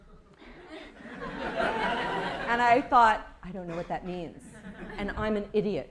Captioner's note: laughter